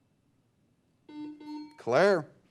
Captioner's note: beep; bell dings